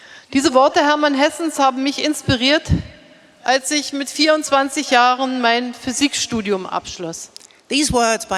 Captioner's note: speaking in German